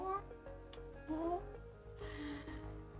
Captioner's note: deep sigh; sad groan